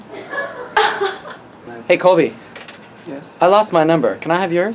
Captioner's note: laughs